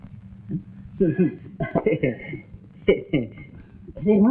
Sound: laughs

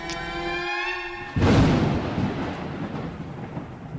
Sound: booming thunder

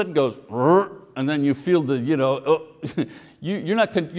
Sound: chuckles

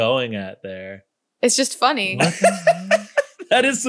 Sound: laughs

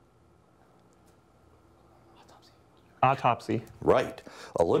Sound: whispering

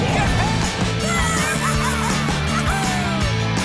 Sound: squeaking

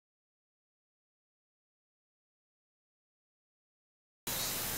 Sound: silence

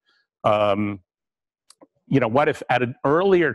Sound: pause

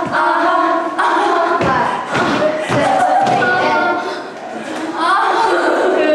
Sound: hahahaha

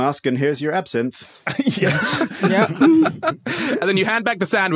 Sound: guys laughing

